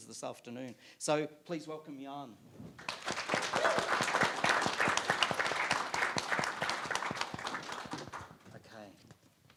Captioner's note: applauds